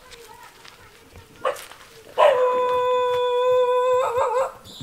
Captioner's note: barking of dogs